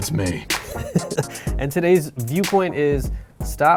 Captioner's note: laughter